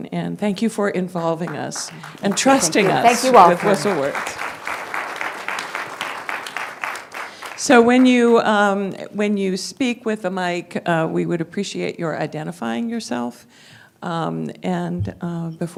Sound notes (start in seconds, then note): 4.3 applause